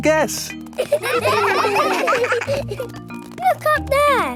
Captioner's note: children laughing